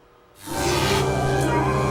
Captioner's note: electric roar